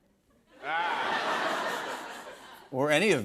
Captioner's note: laughter